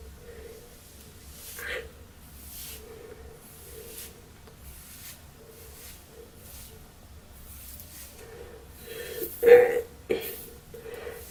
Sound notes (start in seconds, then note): 3.5 combing sounds